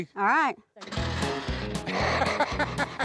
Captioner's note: motor stammers; laughing